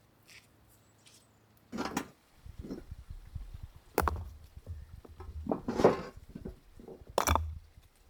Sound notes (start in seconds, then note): 3.8 clattering stones